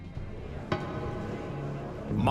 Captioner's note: indistinct chatter